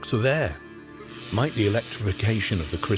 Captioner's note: electricity buzzing